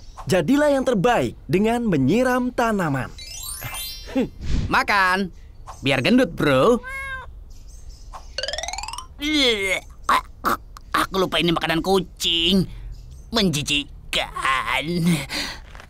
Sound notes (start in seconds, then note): 9.1 throws up